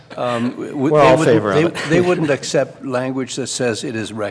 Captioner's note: laughter